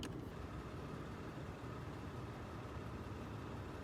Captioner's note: car engine noises